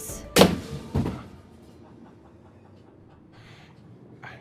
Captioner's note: briefcase thuds